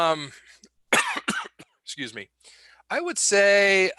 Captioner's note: coughs